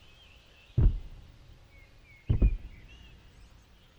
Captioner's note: loud stomps can be heard